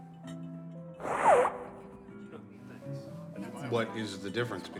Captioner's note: Ray blowing his nose